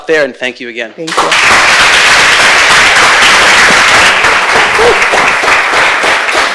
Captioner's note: audience applauding